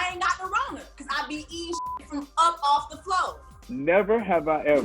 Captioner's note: beep